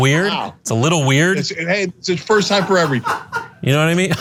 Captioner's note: laugh